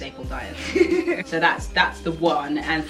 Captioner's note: laughs